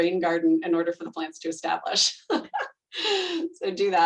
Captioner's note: laughing